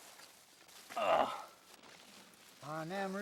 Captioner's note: grunting